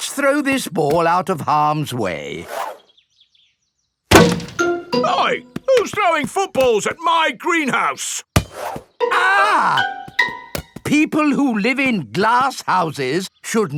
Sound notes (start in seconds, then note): 4.1 thuds; 9.1 screams